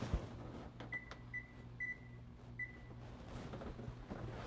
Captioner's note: oven beeping